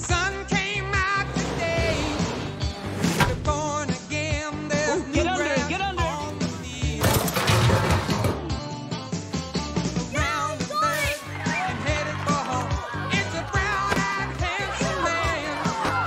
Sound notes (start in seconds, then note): 7.0 clanking